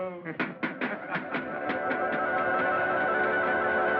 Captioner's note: laughter